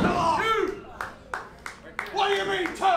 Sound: clapping

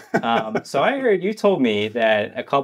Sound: laughing

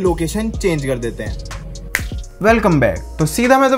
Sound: snaps

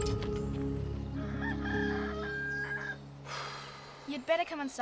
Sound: rooster crows distantly

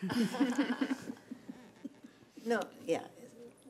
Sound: laughing

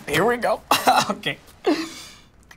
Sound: chuckles

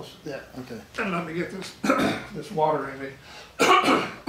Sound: coughs

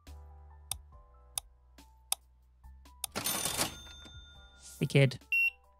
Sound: beeping

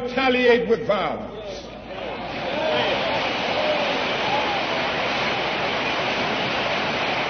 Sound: applause

